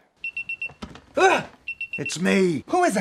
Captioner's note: beep